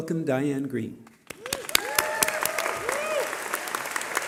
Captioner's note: cheering